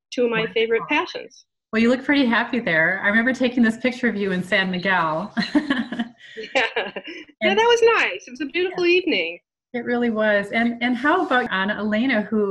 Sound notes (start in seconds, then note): 5.3 laughs